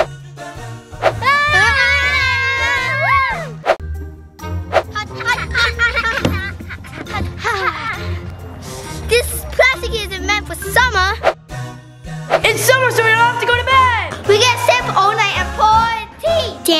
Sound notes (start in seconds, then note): 1.2 children yelling